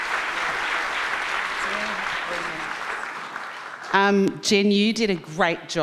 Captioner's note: applause drown speakers